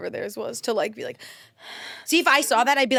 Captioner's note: breaths